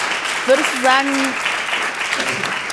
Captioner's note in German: Applaus